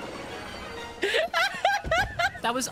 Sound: laughter

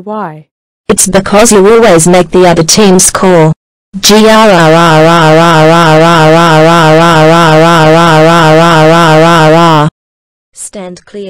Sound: in Australian accent

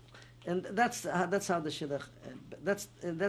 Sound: non-english

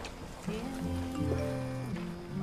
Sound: ringtone sound

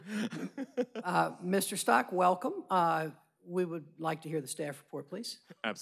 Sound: laughter

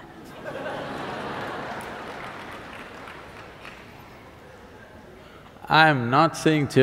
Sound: laughter/Applause

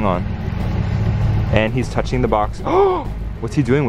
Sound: gasps

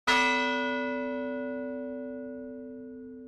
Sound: bell ring

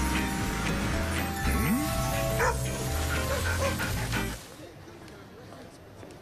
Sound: vocalizing, barking

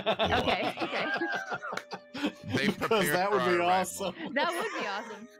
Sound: excited chattering

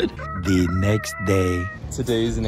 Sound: laughs; cock crows

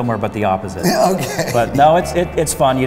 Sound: chuckles

